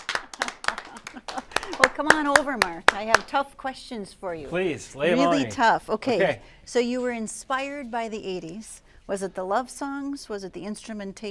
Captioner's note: applause